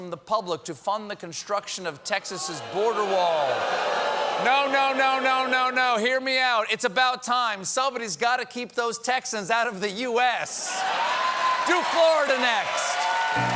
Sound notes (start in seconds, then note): 5.0 booing